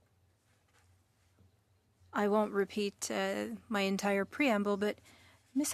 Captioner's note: speaking French